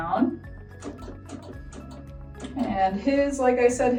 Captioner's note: light upbeat music; machine clicking